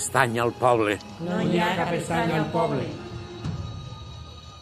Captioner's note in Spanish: al unísono